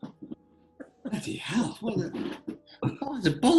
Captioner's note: giggling